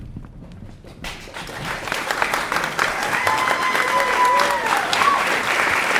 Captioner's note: applause begins